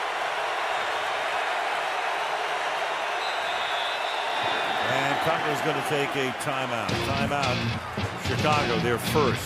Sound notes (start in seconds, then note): 0.3 crowd cheering; 3.2 whistle